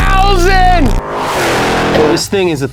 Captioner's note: engine revving